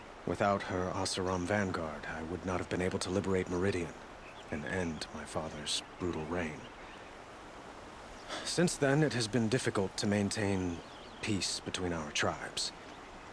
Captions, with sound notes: Without her Oseram Vanguard, I would not have been able to liberate Meridian... ...and end... ...my father's... ...brutal reign. (sigh) Since then it has been difficult to maintain... ...peace, between our tribes...